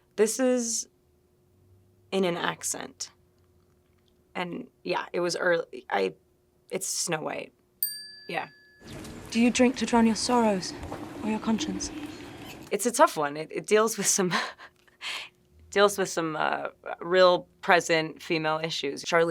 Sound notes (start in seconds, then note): 7.8 graphic chiming; 15.2 chuckling